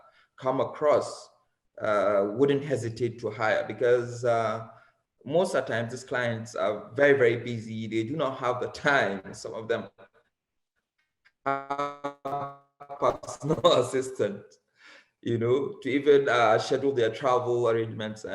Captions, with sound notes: come across, wouldn't hesitate to hire because most of the times these clients are very, very busy, they do not have the time. (crackling drown out speaker) Assistant to even shadow their travel arrangements